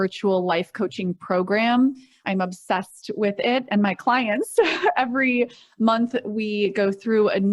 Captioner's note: chuckles